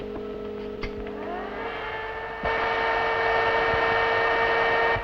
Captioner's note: whirring